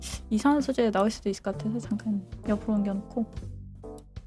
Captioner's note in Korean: 콧방귀